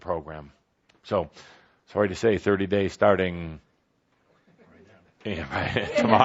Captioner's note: laughs